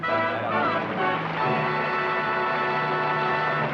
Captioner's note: applause